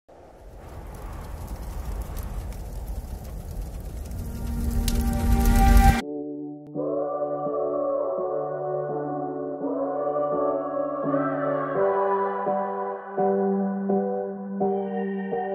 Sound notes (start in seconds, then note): 0.0 wind howling; 1.9 fire crackling; 6.6 ethereal voices singing